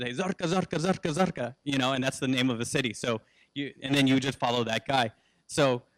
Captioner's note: speaks Arabic